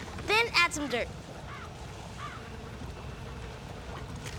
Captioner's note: crows cawing